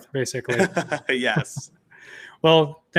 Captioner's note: laughing